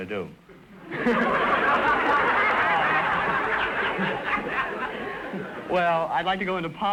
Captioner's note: audience laughter